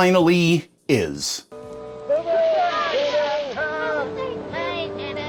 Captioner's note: cheers and well-wishes